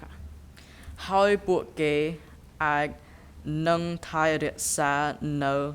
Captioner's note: speaking in a foreign language